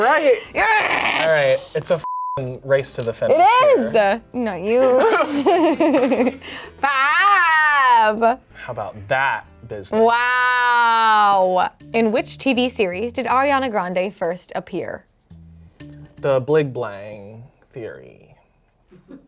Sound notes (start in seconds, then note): 2.0 beep